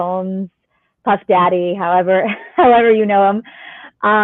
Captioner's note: laughter